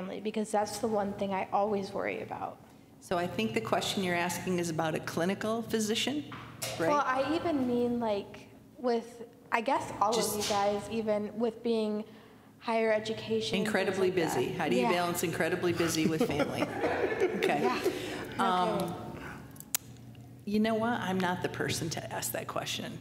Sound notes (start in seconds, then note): 15.8 laughter